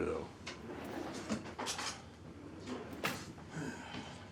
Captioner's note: scoffs; drawer whooshes; cutlery clatters; Abe sighs